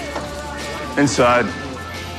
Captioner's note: door opens